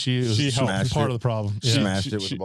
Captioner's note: laughing